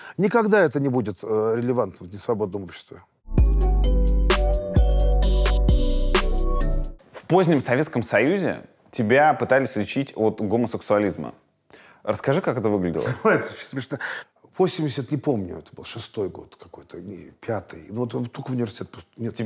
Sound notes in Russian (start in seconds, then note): 3.3 музыкальная заставка; 13.0 со смешком